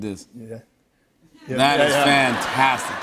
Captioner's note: laughter and applause